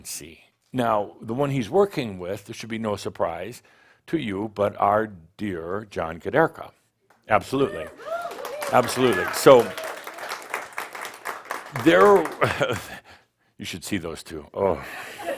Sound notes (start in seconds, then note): 7.5 audience sheers and applauds